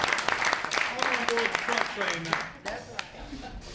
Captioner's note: applause